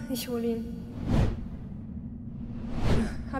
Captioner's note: woosh